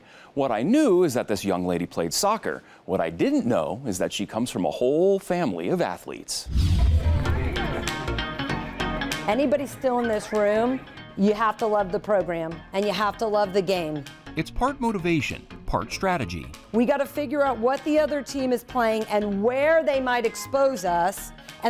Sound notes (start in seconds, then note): 6.4 air whooshing; 7.4 upbeat music